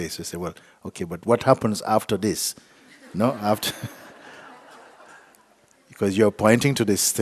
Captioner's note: laughter